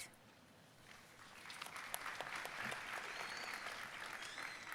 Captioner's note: audience applauding